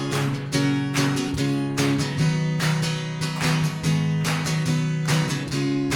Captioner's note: audience clapping; guitar strumming